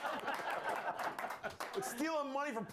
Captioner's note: applause